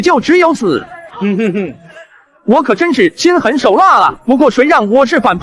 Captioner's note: chuckles